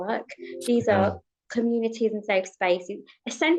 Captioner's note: device pinging